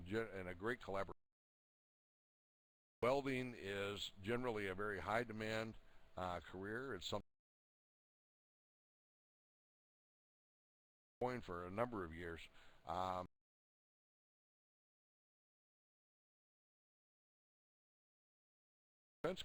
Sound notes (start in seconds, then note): 1.5 audio drops; 8.5 audio drops